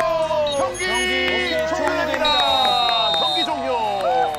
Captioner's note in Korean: 호루라기 소리